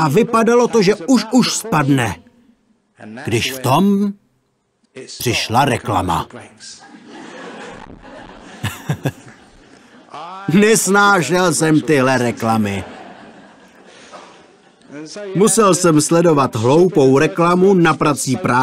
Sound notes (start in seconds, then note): 6.8 laughter